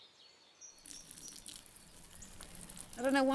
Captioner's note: urine trickling